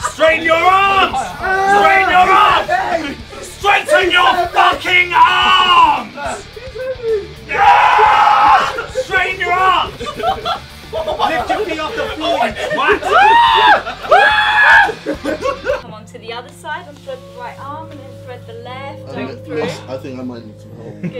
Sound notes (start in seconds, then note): 7.4 Josh screaming; 13.0 Simon screaming